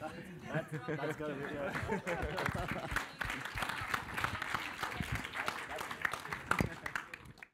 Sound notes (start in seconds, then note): 1.3 applause